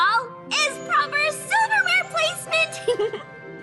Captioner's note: giggle